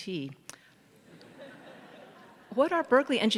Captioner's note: faculty and audience chuckle